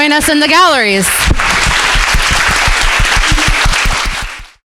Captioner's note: crowd applauding